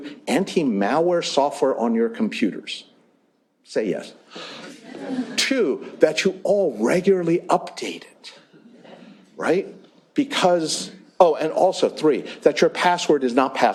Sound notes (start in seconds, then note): 4.6 laughter